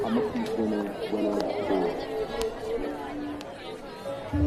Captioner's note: people chattering